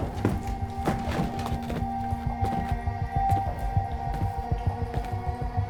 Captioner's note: creaking wood; frantic bootsteps; deliberate bootsteps